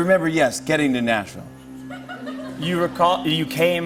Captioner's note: laughter